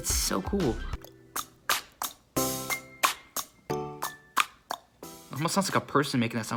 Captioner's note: tongue clicking